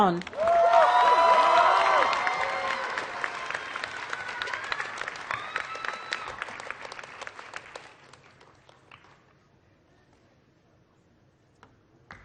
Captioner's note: applause